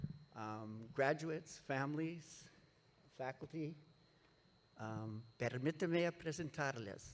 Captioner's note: speaks Spanish